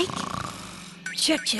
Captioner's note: snoring